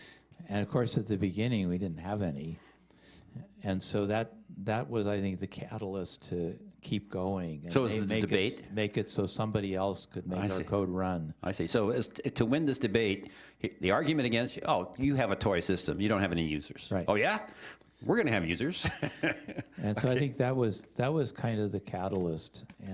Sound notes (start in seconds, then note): 18.7 chuckling